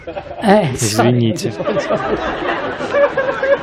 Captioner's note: Смех